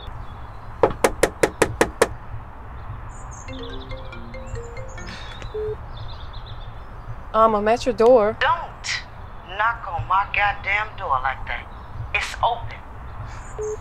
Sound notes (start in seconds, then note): 0.8 knocking; 3.5 phone ringing; 4.2 phone beeps; 5.0 sighs